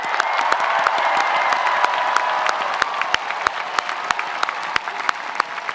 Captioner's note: spectators applauding; spectators cheering